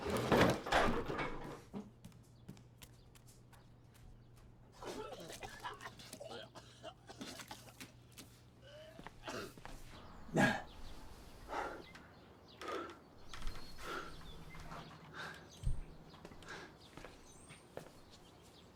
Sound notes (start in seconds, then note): 0.0 chair clattering; 4.8 Kent retching; 10.2 Kent panting